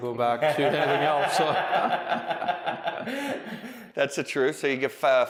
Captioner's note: laughing